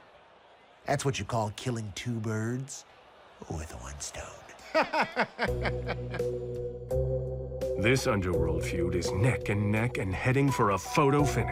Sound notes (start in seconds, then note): 4.5 laughs